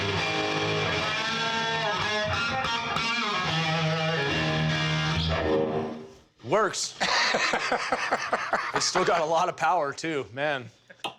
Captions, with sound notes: - Works! - [laughing] - It's still got a lot of power too, man.